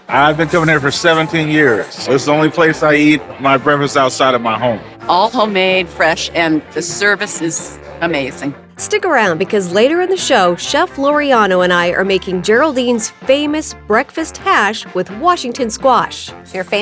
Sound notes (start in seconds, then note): none